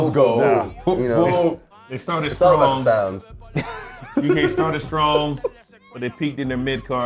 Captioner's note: laugh